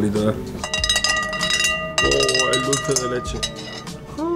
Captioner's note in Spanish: golpean con la cuchara